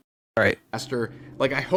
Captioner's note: rev